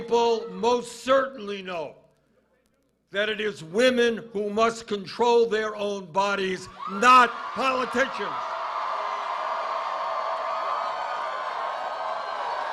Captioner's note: cheers and applause